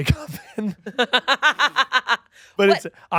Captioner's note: laughing